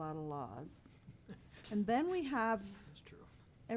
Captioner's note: chuckles